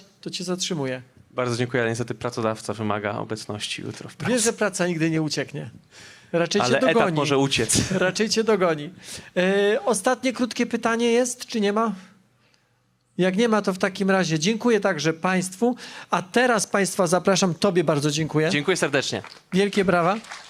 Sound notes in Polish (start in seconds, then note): 7.6 śmiech; 18.6 oklaski